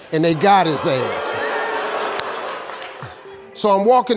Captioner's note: audience booing